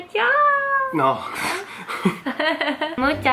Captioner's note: laugh